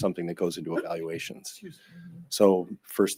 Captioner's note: hiccups